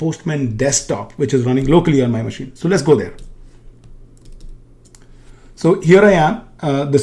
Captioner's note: keyboard clicking